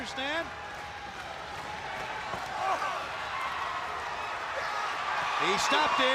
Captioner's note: crowd cheering